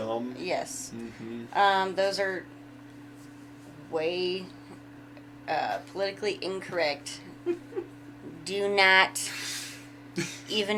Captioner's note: laughing